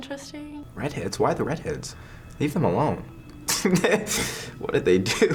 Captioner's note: laughs